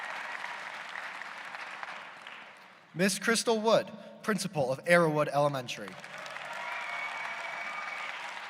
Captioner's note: applause